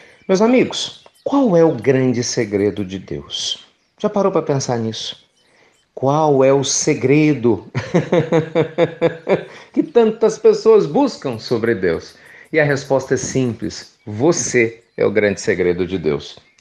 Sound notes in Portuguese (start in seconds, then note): 11.7 Risos